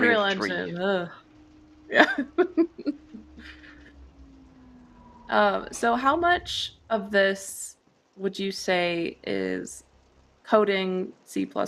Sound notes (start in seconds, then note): 0.0 shudders; 2.0 laughs